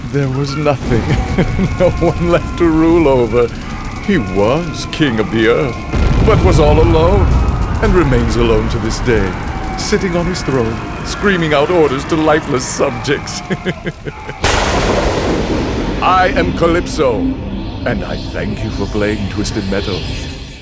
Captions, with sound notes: There was nothing..., no one left to rule over. He was king of the Earth, but was all alone, and remains alone to this day..., sitting on his throne, screaming out orders to lifeless subjects. *chuckle* [Thunder] I am Calypso, and I thank you for playing Twisted Metal.